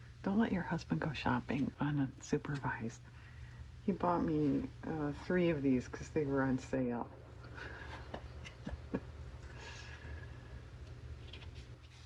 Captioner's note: laughs